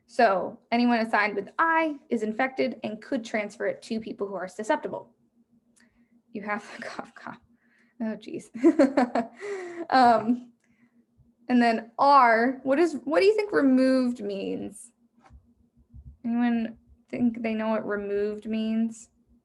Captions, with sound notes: So anyone assigned with I, is infected, and could transfer it to people who are susceptible. You have cough, cough. Oh, geez. (chuckles) And then R, what do you think removed means? Anyone think they know what removed means?